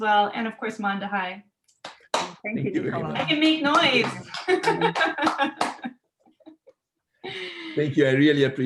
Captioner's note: clapping, laughing; clapping